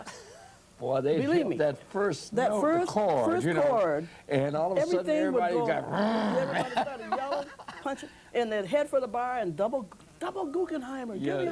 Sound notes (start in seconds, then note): 5.7 growls